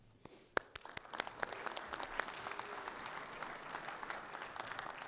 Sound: audience applauding

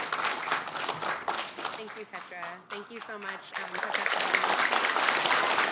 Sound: applause

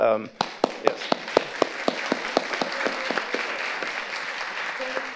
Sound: audience applauding

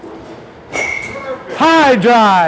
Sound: bat clinks

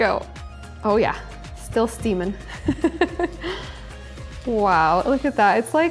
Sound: laughs

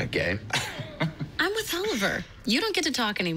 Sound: laughs

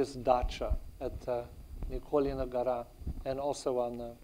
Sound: speaks in foreign language

